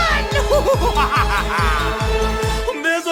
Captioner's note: more evil cackling hehehe